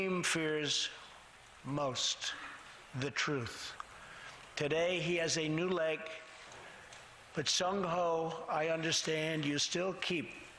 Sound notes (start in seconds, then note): none